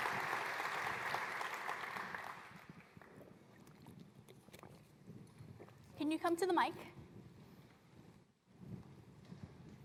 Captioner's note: applause